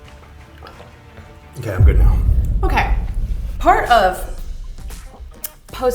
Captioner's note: swallows water